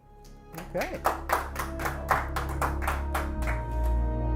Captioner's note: applause; closing music